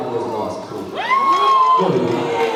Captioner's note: cheers and boos